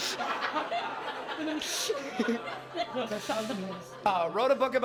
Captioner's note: laughter